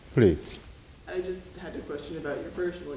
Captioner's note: woman's Voice